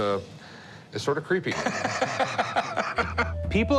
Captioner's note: laughter